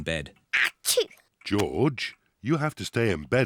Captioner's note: sneezes